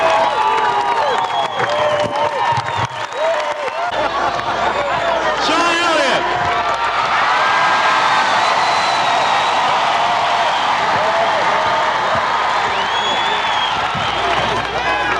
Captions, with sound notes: Sean Elliot! [CHEERING LOUDLY]